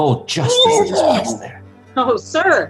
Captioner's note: Todd vomits